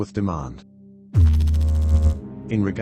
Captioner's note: electrical noise